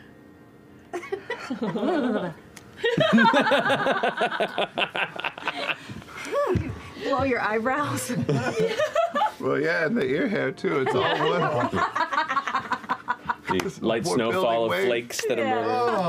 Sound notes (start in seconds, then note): 0.3 laughs; 2.8 laugh; 7.7 laughs